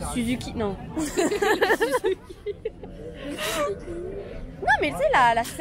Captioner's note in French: rire